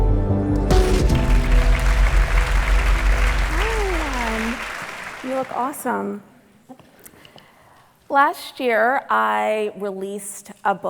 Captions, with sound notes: (audience clapping) - You look awesome. Last year I released a book,